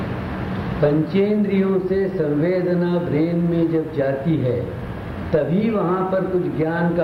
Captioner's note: in Hindi